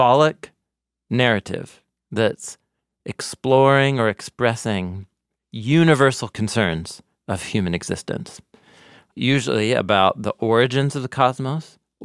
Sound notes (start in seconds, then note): none